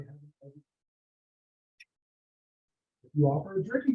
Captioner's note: audio drop